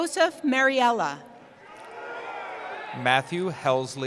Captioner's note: cheering